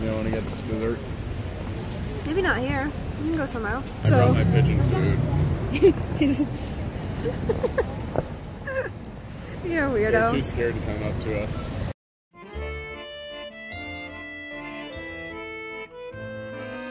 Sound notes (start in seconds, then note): 5.6 laughs